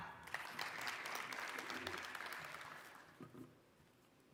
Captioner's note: applause